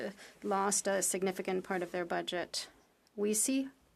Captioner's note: speaking French